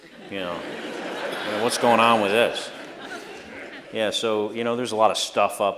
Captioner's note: laughter